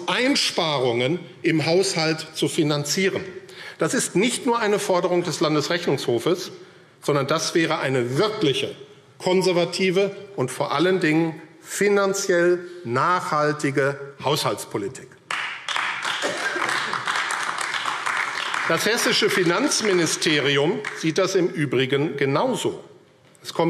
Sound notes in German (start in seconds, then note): 15.2 Beifall AfD